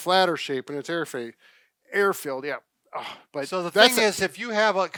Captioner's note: grunts